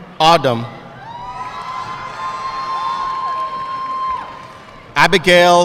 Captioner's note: audience cheering and applauding